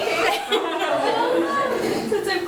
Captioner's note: girls nervously laughing